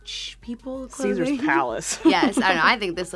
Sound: laughs

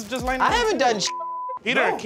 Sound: beep

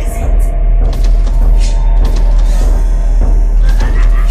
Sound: footsteps and scrape growing fainter; growls

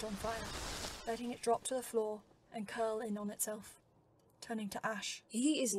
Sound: photo burning

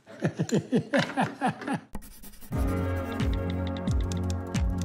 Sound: laughter

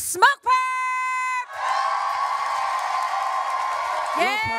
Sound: audience cheering

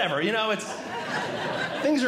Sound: audience Laughing

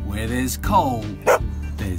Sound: woof

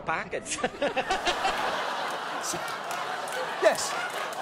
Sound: audience laughing

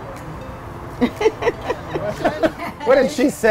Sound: laughing

